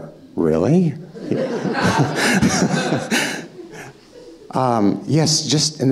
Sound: audience laughing

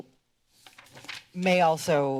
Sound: paper rustling

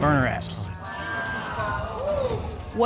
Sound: audience exclaiming

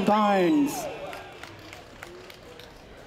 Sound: applause, cheering

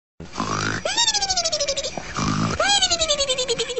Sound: sleeping

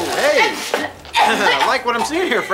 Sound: gagging

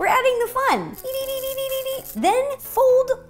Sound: unicorn fairy noises

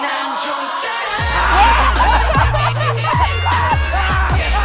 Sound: cheer

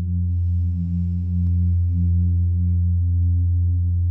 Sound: inhales deeply

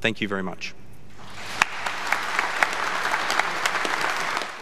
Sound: audience clapping

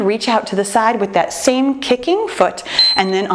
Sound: timer beeping

